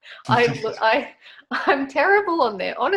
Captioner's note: interviewer chuckles